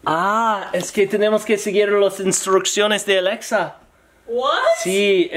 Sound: Alexa speaking in foreign language; speaking in foreign language

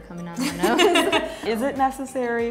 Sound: laughing

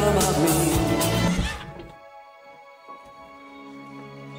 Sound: gears squelch to a stop; somber music

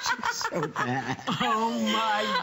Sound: laughter

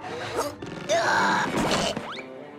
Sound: grunting

